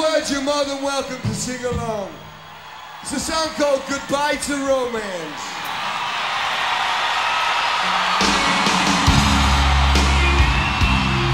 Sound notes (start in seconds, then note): 5.5 audience cheering; 7.8 slow rock music